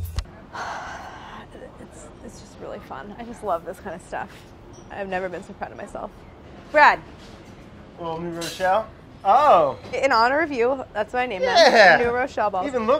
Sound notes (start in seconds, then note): 0.5 sighs